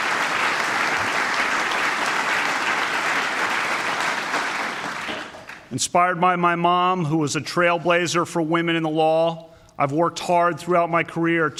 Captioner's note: applause